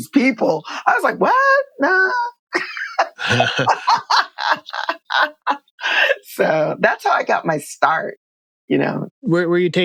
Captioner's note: laughter